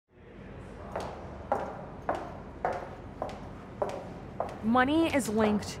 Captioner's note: loud footsteps